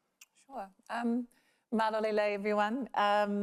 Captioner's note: speaks in foreign language